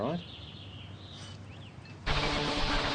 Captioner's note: birds chirp; intense rock music